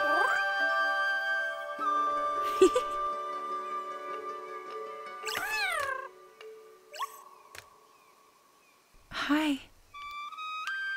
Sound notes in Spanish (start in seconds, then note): 2.4 risas